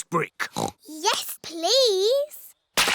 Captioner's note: oinks